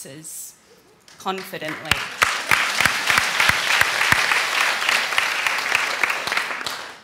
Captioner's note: applause